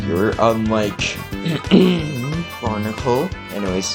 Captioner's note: clearing throat